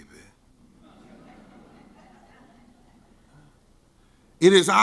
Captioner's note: scattered laughing